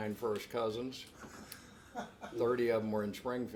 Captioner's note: laughs